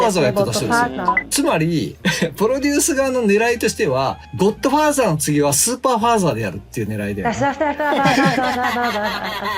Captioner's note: laughs